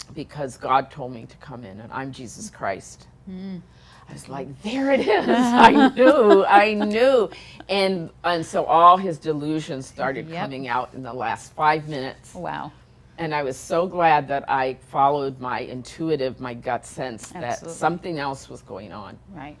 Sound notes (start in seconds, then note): 4.7 laughing